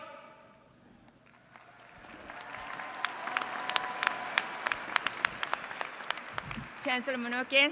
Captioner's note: applause